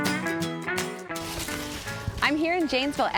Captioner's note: cornstalks crunching